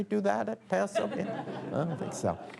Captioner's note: laughter